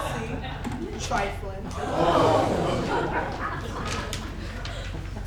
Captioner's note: the Players gasps